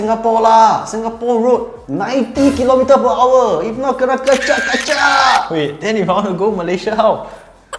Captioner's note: camera clicks